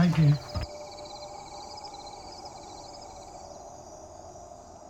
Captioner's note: crickets